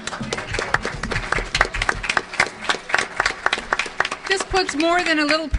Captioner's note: background laughter/audience applause